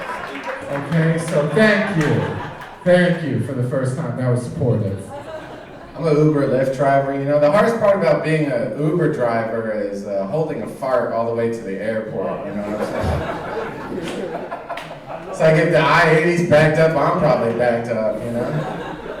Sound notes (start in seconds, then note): 10.8 audience laughing